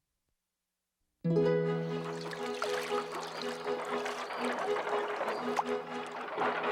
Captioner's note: gentle music; water splashing